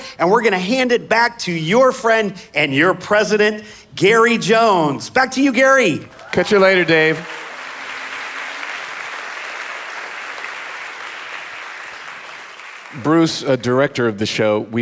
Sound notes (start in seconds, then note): 6.2 audience applauding